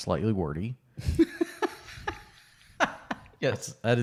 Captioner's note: laughing